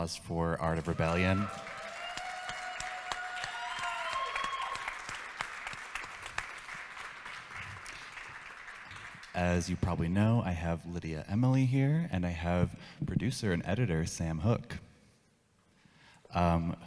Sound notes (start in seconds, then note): 0.6 audience claps and cheers